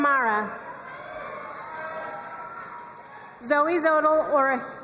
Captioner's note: crowd cheering and applauding